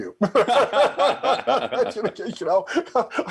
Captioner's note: both laughing heartily